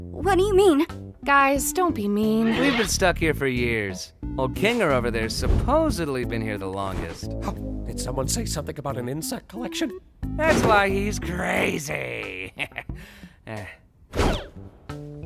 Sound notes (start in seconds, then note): 12.2 chuckles